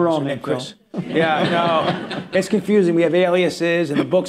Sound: laughter

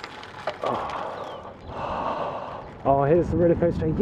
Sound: exhales; sigh

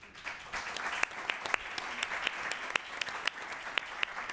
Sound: applause

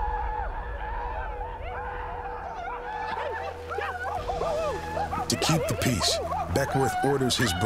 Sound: whooping sounds echoing

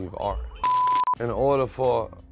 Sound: beep

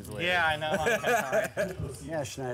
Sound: laughing

